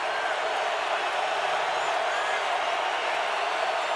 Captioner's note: crowd cheering